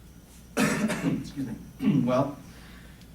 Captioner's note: coughing